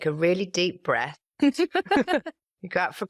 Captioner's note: laughter